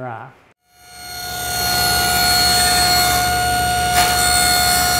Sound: machine buzzing

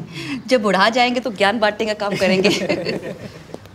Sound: laughs

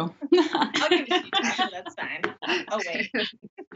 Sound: all laughing

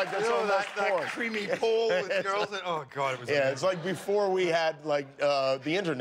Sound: applause

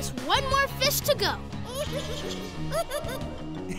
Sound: squeaking

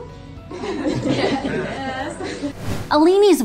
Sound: class laughs

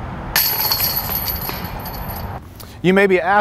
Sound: chains clanging

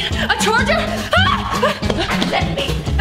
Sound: screams

